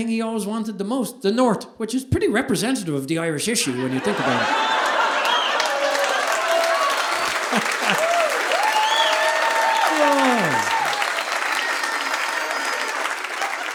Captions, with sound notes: he always wanted the most, the North, which is pretty representative of the Irish issue when you think about it. (audience laughing) (audience applauding)